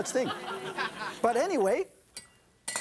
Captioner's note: audience laughing